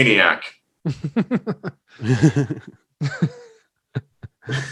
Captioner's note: hosts laughing